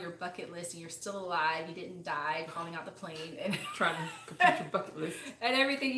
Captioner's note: laughs